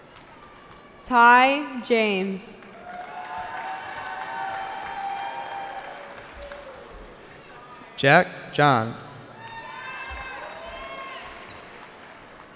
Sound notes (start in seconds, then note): 2.6 cheering